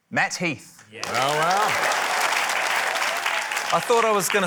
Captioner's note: applause